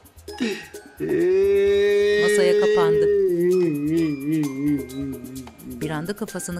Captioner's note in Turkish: Ağlama sesi